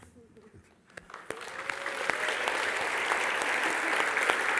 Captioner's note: aplausos